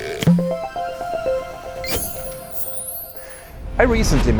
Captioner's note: playful chime